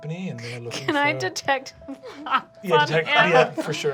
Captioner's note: laughing